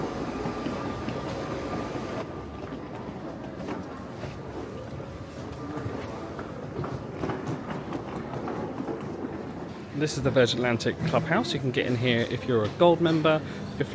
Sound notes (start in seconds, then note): 3.4 crowd chattering; 3.4 luggage clacking